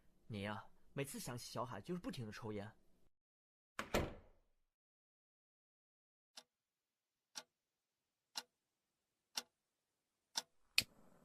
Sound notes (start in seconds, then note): 3.8 door closed